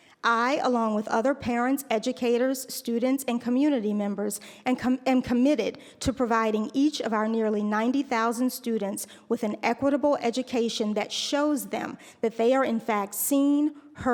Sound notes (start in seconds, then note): none